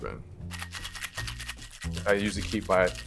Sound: ice clattering

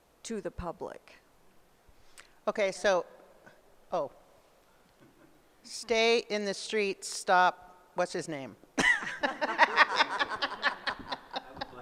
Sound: laughs

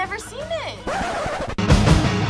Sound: record scratch

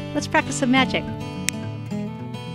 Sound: snap

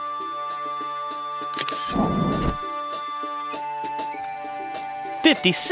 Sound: SFX: Camera Shutter

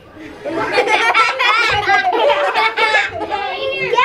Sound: laughing

